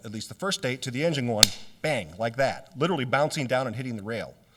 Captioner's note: makes clapping sound with hands